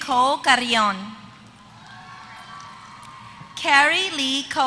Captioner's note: applause